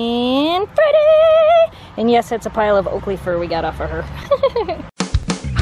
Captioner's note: laughter